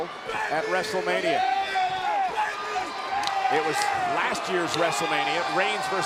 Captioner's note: wrestlers shout out